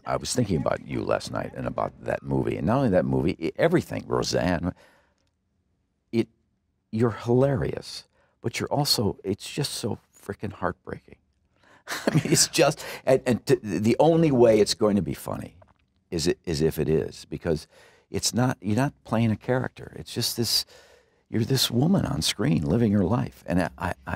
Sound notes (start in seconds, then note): 11.8 laughter